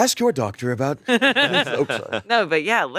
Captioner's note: both laughing